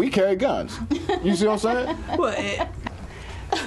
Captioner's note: laughter